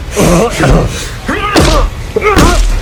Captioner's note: groaning in pain; growling; both grunting